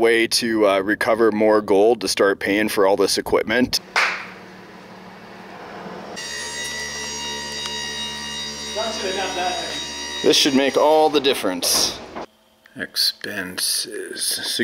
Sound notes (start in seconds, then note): 9.3 humming